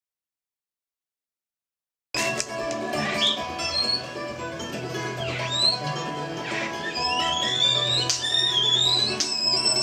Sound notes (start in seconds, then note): 2.2 upbeat music; 2.7 bird singing